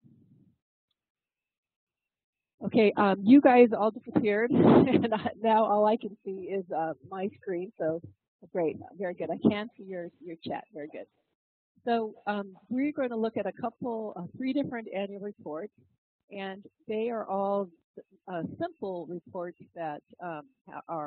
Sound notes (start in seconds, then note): 4.2 laugh